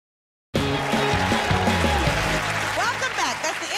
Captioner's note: cheers and applause